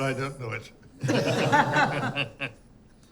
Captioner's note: laughter